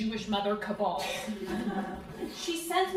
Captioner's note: crowd laughing